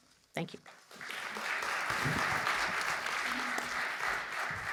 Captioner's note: audience clapping